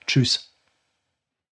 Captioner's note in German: silence